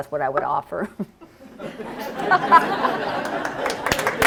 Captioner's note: laughter; applause